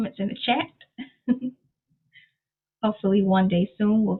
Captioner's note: chuckles